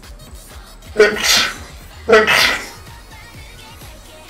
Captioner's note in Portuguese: Espirro